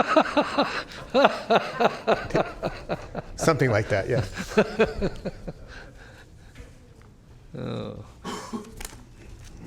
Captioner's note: laughter